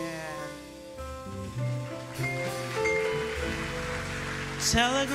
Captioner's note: audience applauding